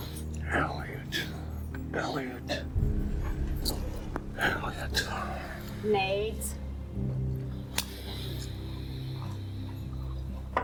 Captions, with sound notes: Elliott, Elliott. Elliott. (sighing) - Nate. (soft tense music)